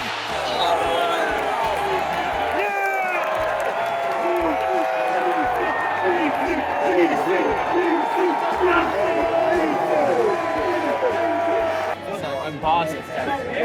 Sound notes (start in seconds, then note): 0.3 crowd Cheers; 5.9 ”DC” chants